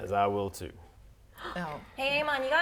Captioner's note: gasp